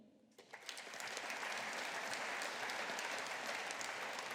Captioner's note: audience applauding